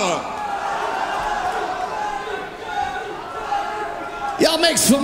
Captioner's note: audience chants